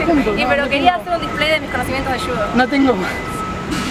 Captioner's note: laughs